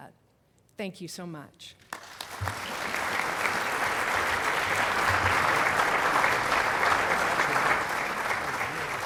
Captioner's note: applause